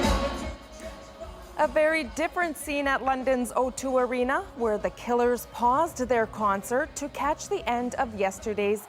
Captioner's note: cheers and Applause